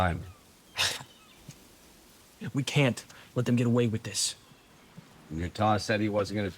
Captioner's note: scoffs